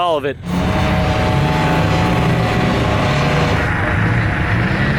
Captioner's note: helicopter whirring